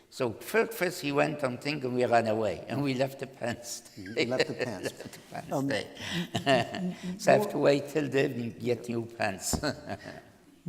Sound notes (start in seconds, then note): 4.0 laughter